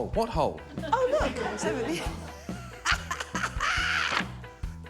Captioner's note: laughs